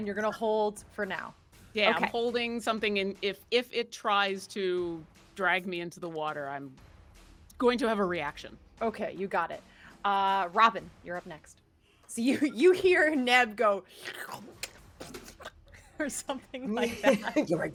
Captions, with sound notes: And you're gonna hold for now? - Yeah, I'm holding something, if it tries to drag me into the water, I'm going to have a reaction. - Okay, you got it. Robin, you're up next. So you hear Neb go. (person slurping) Or something like that.